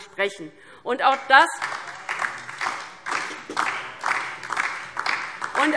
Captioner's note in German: Beifall DIE LINKE